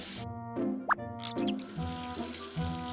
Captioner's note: beep; knob squeaking